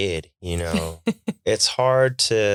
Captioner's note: chuckling